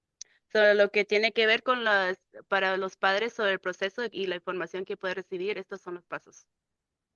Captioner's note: speaking in Spanish